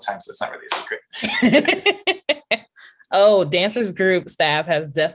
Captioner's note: laughter